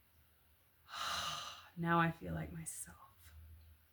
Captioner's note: heavy sigh